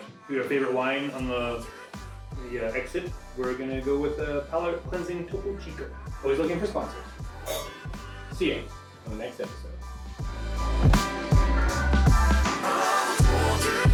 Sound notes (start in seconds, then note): 7.5 glasses clinking; 10.3 contemporary jazz music